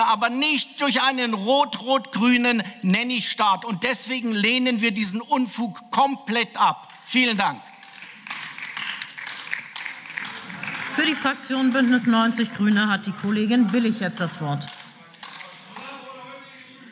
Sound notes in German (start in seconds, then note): 7.6 Beifall